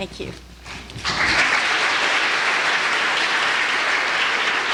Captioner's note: applause